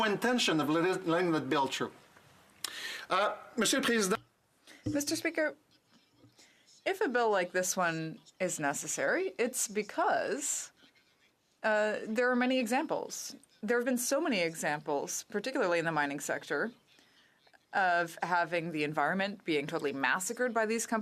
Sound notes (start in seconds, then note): 11.0 speaking French